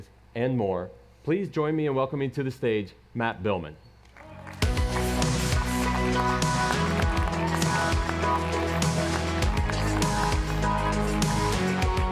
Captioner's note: applause